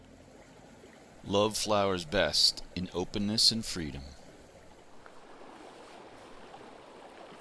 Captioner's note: running water